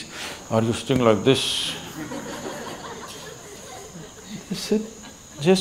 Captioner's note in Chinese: 笑聲